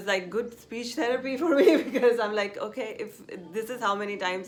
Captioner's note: laughs